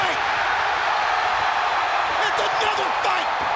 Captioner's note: crowd cheering continues